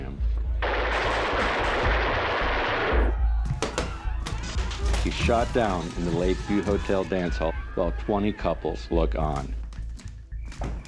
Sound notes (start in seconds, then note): 3.6 gunshots cracking; 4.0 dancers screaming